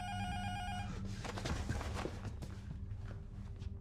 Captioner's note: intercom buzzer rings